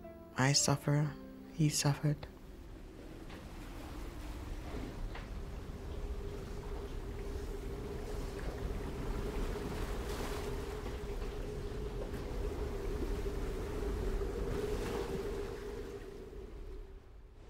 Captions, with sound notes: I suffer, he suffered. [water sploshing] [wind gusting]